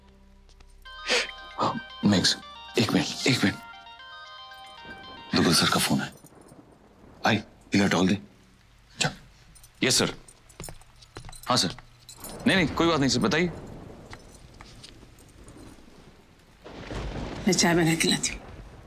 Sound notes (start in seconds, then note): 0.8 Phone ringing